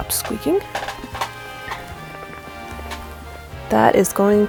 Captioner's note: stool continues squeaking